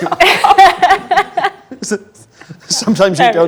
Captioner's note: group laughs